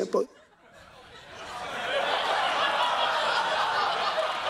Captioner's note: laughter